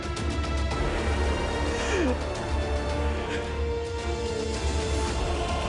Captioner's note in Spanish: Sollozos